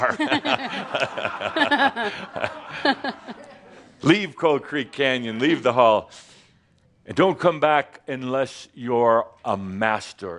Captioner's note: laughter